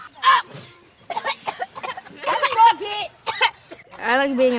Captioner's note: kids coughing